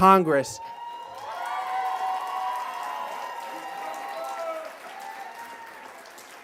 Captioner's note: cheers and applause